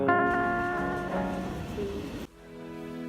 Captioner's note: passing train sounds